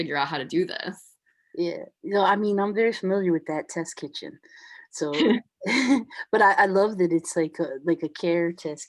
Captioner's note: chuckles